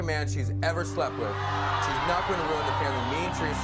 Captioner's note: audience cheers